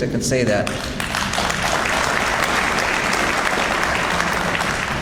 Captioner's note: audience applauds